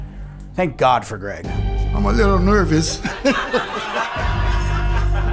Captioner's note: laughs